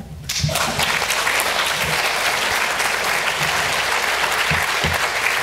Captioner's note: audience applauds